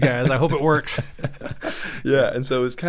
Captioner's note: both laughing